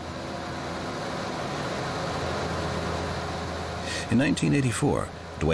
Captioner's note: plane rumbling